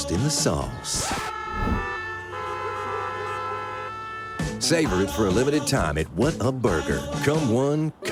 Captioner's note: cars honking